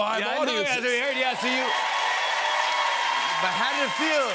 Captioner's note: cheers and applause